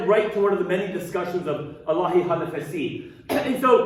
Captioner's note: speaking arabic